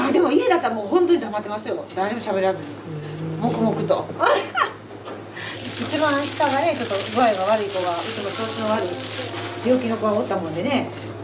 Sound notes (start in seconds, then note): 4.2 laughs